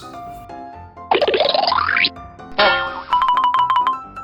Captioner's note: cartoony blooping; alternating high-pitched piano keys; bonking